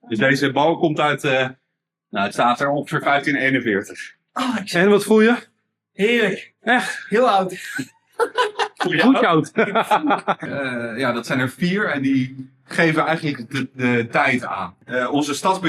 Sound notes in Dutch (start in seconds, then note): 8.2 gelach